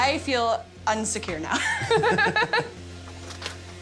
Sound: laughter

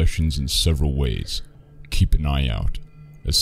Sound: voice-over

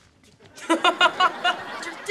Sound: laughing

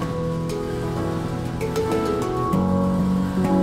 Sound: car engine runs

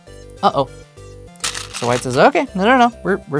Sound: stones rattling

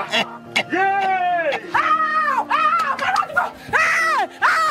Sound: Ekong chuckles; people yelling

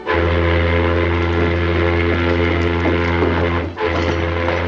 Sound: ship horn blaring

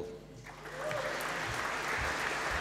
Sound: applause

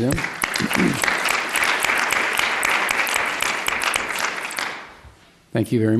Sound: applause

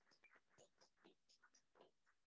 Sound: applause

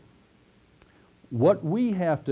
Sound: pause

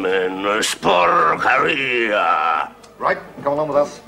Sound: speaks Italian

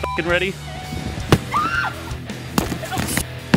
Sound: screams

